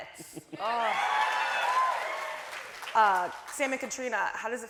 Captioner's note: audience cheering